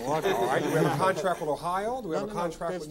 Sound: all laughing

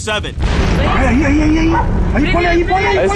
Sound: conversations in spanish

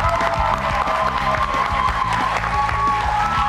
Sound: cheers

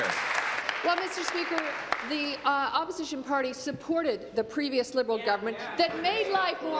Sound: applause

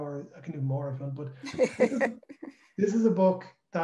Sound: laughs

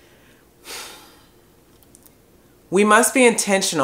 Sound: pause

